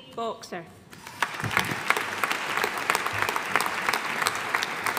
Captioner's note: audience applauding